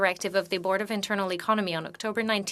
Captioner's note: speaking French